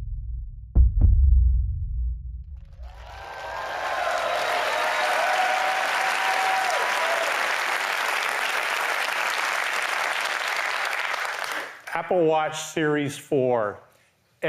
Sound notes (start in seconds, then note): 2.8 applause